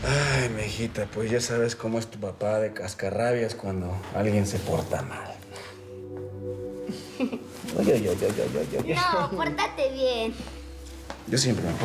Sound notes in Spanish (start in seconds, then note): 7.1 risas